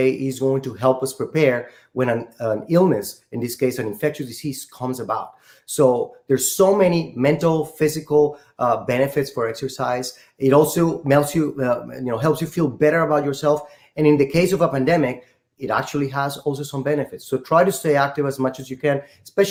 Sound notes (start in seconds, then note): none